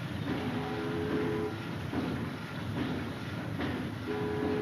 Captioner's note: ship horn blares